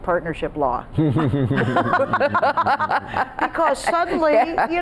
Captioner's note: group laughing